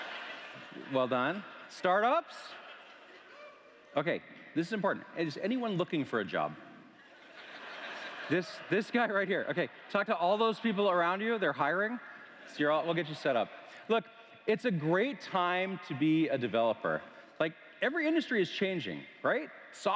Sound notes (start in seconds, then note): 10.0 laughter